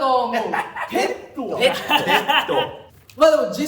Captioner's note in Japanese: 笑い声